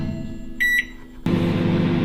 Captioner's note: beep; microwave humming